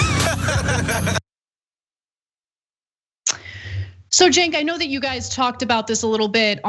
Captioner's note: laugh